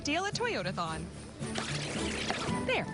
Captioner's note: tape rewinding